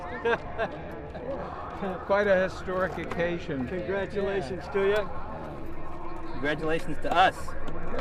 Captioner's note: laughter